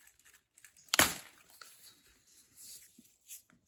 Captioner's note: leaf snaps